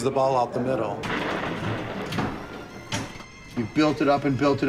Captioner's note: pinball rolling across machine